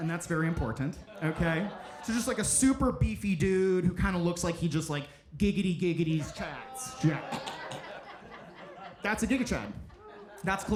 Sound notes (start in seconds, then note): 6.2 audience laughing; 6.2 gags